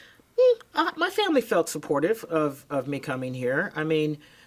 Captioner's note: vocalizes